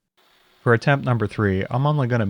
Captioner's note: mill whirring